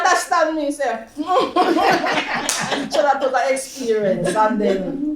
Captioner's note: laughter